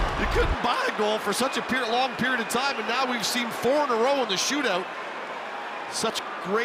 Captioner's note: cheering